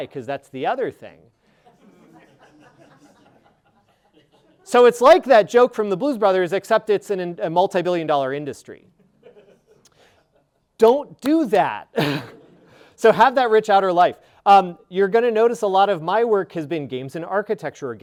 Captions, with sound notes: "'cause that's the other thing." (audience laughing) So it's like that joke from "The Blues Brothers," except it's in a multi-billion dollar industry. Don't do that. So have that rich outer life. You're gonna notice a lot of my work has been games in architecture,